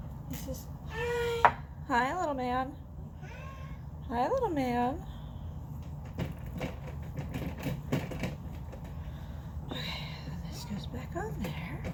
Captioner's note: cage rattles